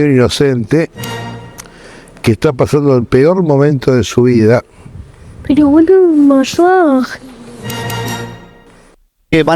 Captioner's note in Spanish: Efectos de sonido